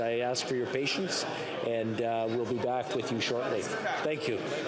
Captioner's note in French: voix de l'interprète